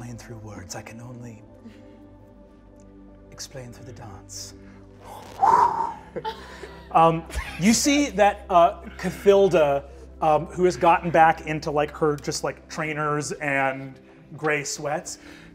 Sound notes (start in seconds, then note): 5.5 imitates sheet whooshing